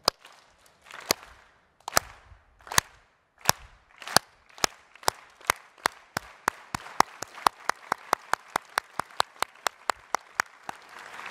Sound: clapping

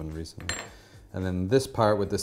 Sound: spoon clatters

